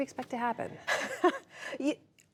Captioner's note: laughter